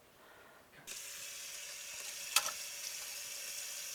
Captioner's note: water running